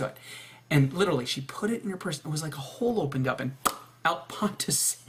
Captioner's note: pop